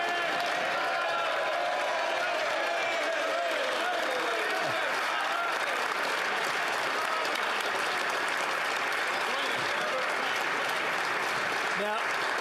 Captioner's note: applause